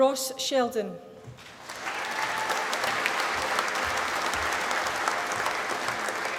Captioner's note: applause